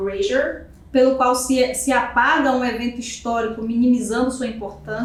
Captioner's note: speaking portuguese